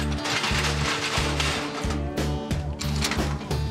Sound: gate clanking

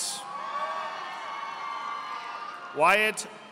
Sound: audience applauding

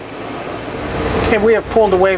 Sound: motor running

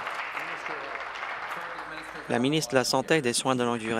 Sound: applause

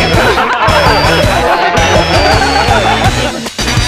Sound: laughter

